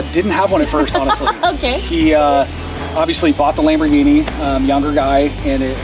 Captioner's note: laughs